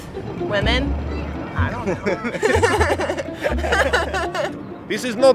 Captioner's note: laughs